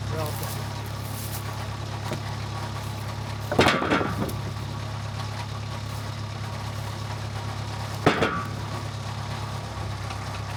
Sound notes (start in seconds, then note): 2.5 wood clunking; 8.0 wood clunks